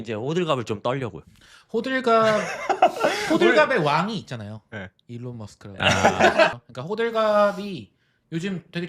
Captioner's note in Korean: 웃음